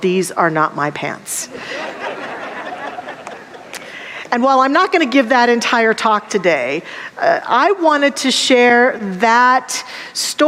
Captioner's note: audience laughter